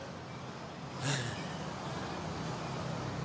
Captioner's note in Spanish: suspira